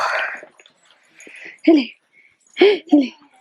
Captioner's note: grunting